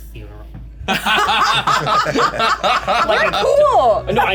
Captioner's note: laughter